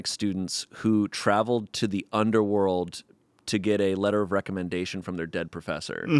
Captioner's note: none